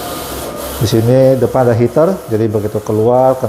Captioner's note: printer machine noise